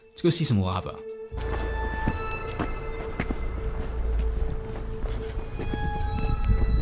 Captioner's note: brooding music; footsteps thumping